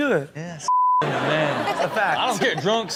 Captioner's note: beep